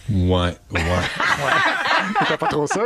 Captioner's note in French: rires